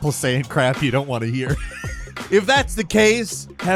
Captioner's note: laughing